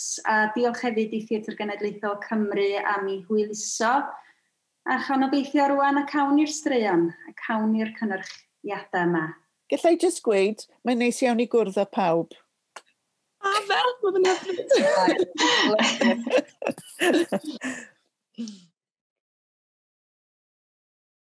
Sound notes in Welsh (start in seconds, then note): 16.2 pawb yn chwerthin yn hwyliog